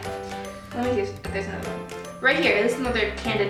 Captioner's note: speaking under her breath